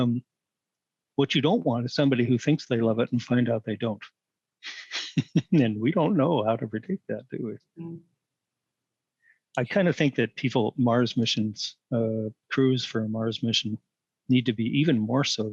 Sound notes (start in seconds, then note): 4.9 laughter